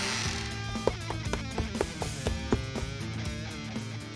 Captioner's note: feet running